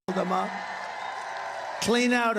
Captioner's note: cheering and applause